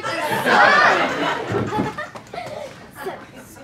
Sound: laughs

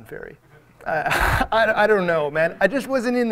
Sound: audience members laugh

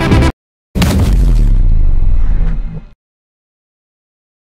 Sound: bass boosted stab sound effect

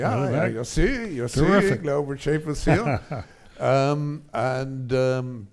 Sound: laughs

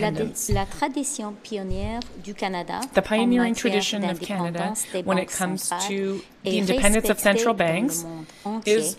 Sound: speaking French

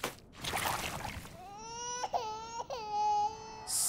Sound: baby crying

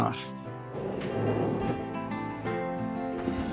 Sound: drawer scratching

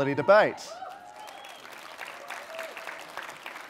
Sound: applause

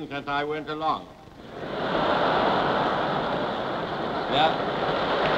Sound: laughter and applause

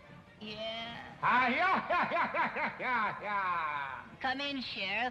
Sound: forced laughing

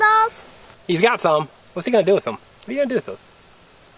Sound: voiceover

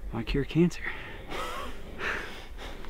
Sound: laughing

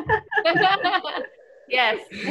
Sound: laughs

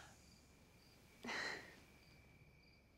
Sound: awkward laugh

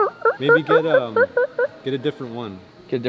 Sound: mimics turkey call

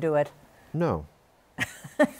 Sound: laughs

